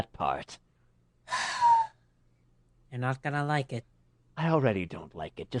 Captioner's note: sighs